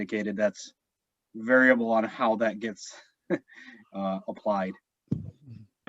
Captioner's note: chuckles